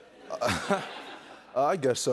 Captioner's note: laughs